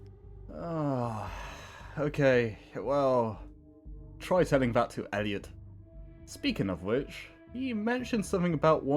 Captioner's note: sigh